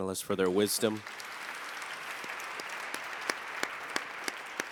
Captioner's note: everyone applauds